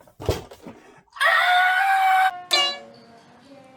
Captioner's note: screams